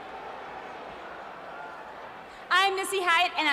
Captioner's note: crowd cheering